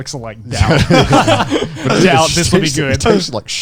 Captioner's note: laughing